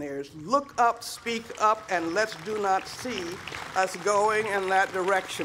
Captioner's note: applause